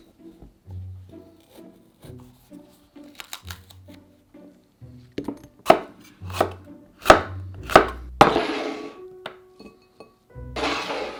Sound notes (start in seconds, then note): 5.7 knife chopping